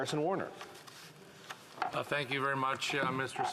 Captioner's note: speaking French